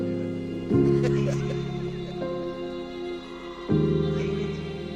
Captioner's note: laughing